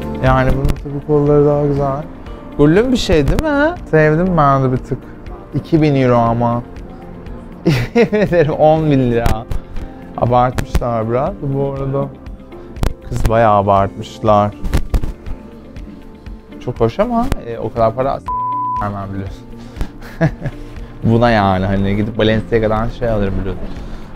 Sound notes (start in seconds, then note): 7.7 laughs